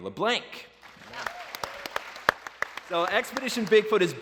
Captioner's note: applause